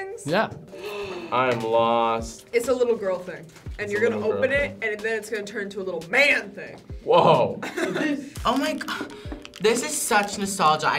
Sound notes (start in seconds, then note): 0.7 gasps; 7.6 laughs